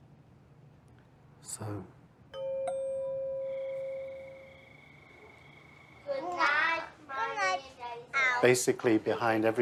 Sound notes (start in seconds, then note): 2.3 bells ring quietly